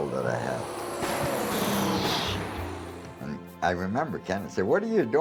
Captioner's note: gun fires